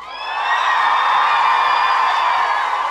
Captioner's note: audience cheering